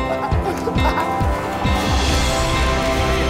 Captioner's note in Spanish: Risas